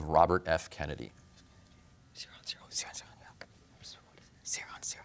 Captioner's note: whispers